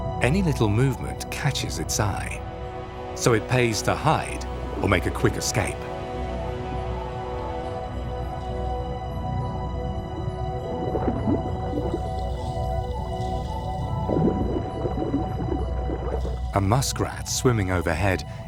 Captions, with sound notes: Any little movement catches its eye. So it pays to hide or make a quick escape. (ominous music) (water sloshes) (ominous music) A muskrat swimming overhead